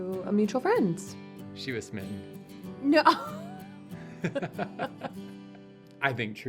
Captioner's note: laughter